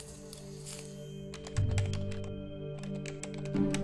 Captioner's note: keypad beeping